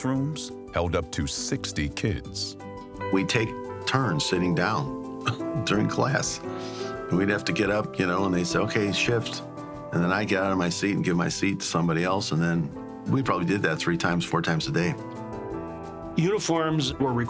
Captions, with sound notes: Some classrooms held up to 60 kids. - We'd take turns sitting down (laughs) during class, and we'd have to get up, you know, and they say, "Okay, shift." And then I get outta my seat and give my seat to somebody else. And we probably did that three times, four times a day. - Uniforms were required.